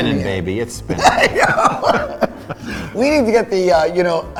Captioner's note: both laughing